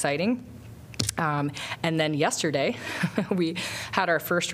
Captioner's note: laughter